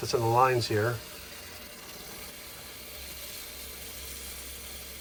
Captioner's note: water rustles